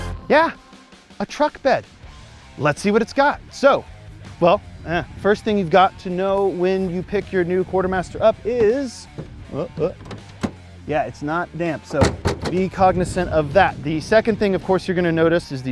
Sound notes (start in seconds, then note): 9.0 door thudding; 11.8 door thudding